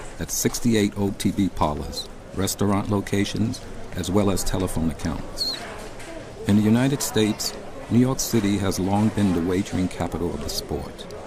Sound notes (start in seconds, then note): none